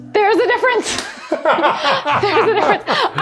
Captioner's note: laughing